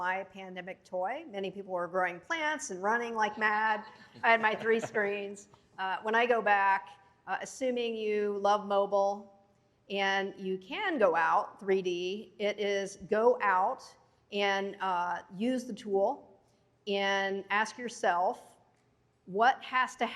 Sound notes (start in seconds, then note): 4.0 laughter